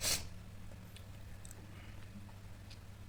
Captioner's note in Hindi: नाक से की जाने वाली आवाज़